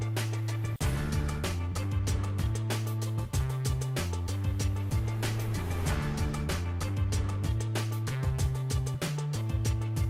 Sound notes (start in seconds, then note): none